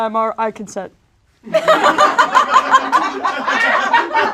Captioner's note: audience laughs